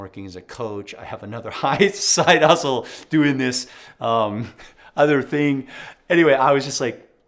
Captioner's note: laughs